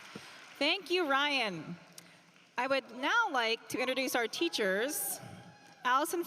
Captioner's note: cheering and applause